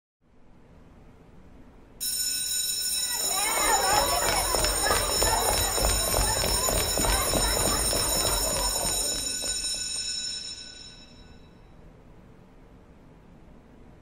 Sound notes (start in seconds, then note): 2.2 bell ringing; 3.0 children chattering